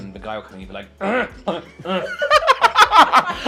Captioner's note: clearing Throat Noise